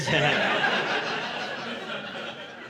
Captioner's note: laughter